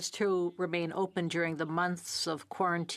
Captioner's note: speaking French